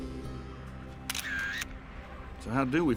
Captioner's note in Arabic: مصراع الكاميرا